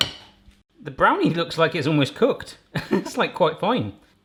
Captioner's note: laughs